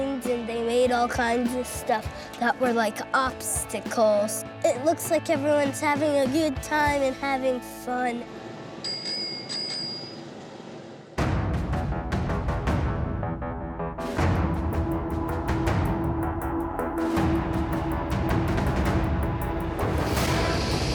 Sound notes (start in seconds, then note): 8.8 bike bell dings; 11.8 ominous music